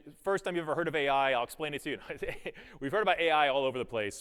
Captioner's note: chuckles